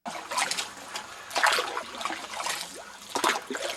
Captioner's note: sound of someone paddling